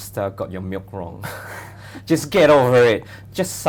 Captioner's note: chuckles